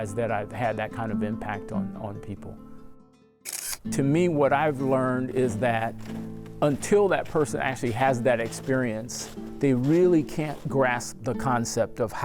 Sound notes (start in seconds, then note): 3.4 camera shutter clicking